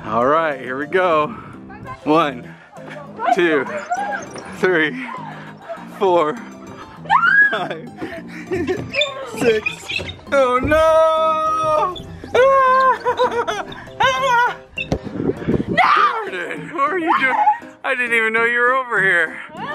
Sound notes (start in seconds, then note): 13.2 laughing